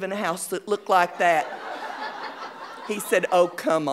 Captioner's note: audience laughing